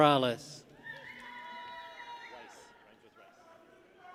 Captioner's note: people cheer